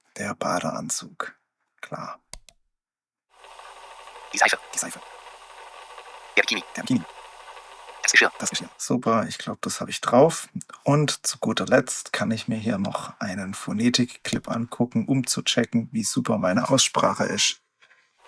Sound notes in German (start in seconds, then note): 5.1 Voice-over sehr schnell vorgespult